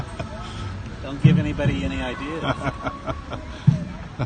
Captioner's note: laughter